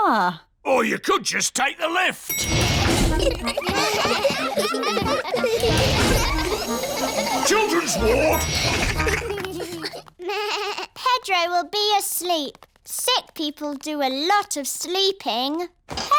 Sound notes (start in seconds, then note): 2.3 elevator bell dings; 2.7 all giggling; 8.9 elevator bell dings; 10.3 bleats